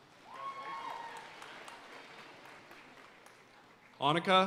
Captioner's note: audience cheering and applauding